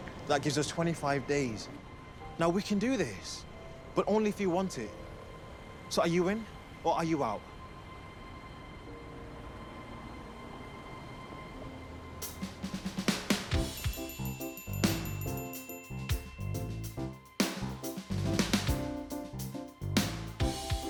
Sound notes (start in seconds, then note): 8.8 pensive music; 13.5 bright music; 13.6 text chiming